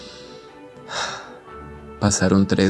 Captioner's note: sigh